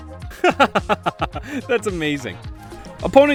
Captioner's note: laughs